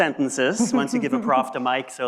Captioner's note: laughs